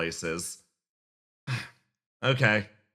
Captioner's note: sigh